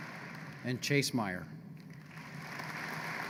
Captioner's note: applause